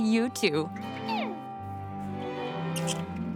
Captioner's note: animal noises